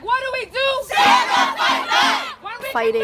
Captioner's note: chanting